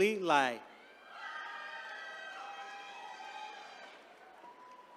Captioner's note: attendees cheering